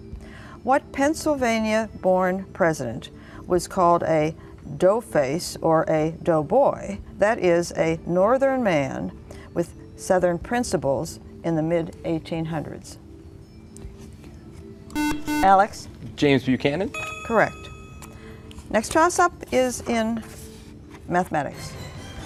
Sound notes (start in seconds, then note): 14.9 buzzer